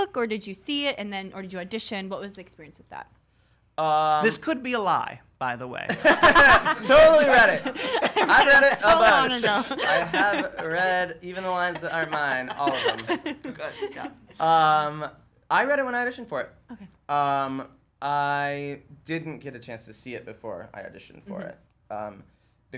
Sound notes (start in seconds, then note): 6.0 all three laughing; 7.3 laughs